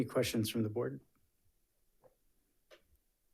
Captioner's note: none